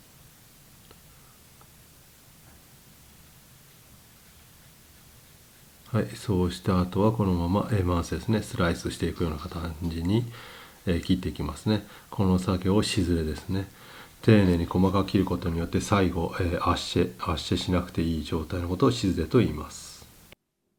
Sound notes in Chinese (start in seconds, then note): 13.6 嘶嘶声